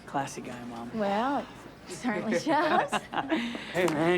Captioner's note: Bobby laughing